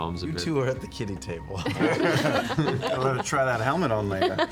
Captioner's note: laughter